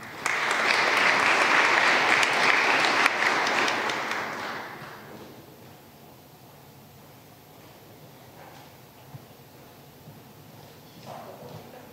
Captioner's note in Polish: oklaski